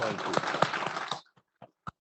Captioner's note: audience applauds